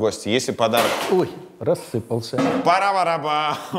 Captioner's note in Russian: шум от удара